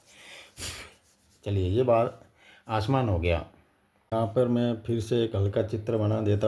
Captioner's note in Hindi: नाक से की जाने वाली आवाज़